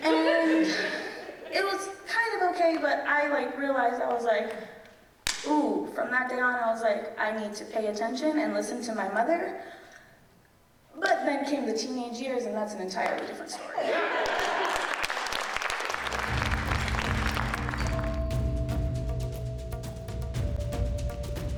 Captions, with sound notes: And it was kind of okay, but I realized, I was like, ooh, from that day on, I was like, I need to pay attention and listen to my mother. But then came the teenage years, and that's an entire different story. (audience applauding) (mellow music)